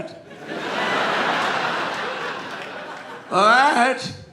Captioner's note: audience laughing